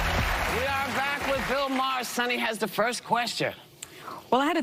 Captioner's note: cheers and applause; applause